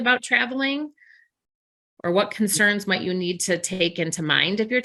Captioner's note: audio warbles